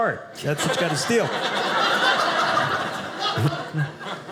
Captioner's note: audience laughing